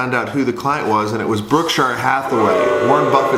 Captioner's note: booing